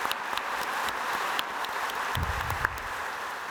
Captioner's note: audience applauding